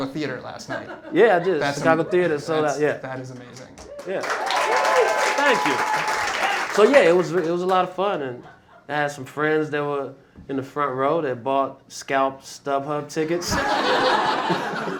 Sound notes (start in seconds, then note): 3.8 cheering; 13.4 laughter